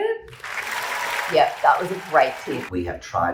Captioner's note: clapping sound effect